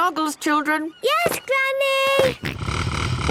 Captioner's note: snort